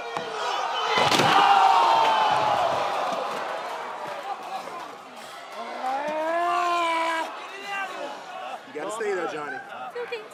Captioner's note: crowd chatter